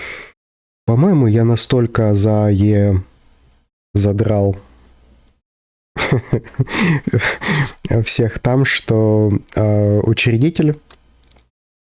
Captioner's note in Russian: смех